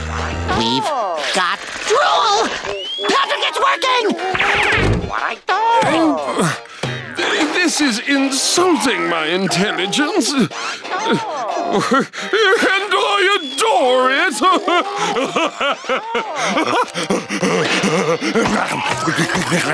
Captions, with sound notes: We've got drool! Patrick it's working! [groaning] This is insulting my intelligence. And I adore it! [laughing] [laughing]